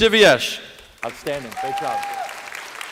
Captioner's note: applause